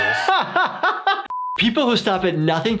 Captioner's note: laughs; beeping